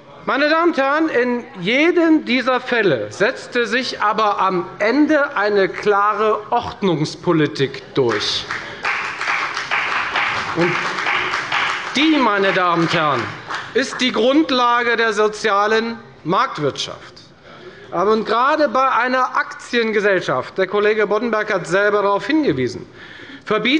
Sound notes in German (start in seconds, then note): 8.0 Beifall bei der FDP